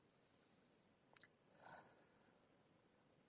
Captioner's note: audible sigh